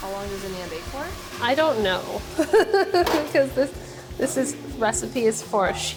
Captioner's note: laughs